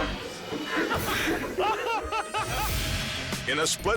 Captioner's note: people laughing